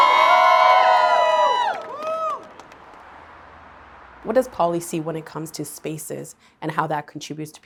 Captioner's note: cheering